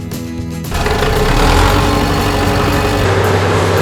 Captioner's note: backhoe Engine Sound; skid Steer Engine Sound